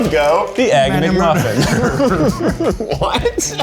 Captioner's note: laughs